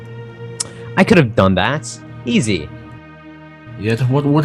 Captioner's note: scoff